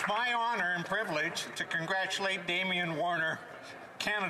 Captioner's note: some Applause